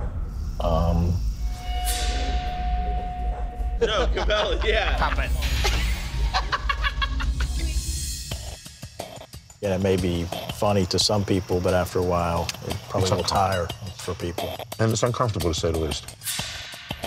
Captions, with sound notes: (eerie rock music) (group laughing) - Yeah, it may be funny to some people, but after a while, it probably will tire for people. - And it's uncomfortable to say the least.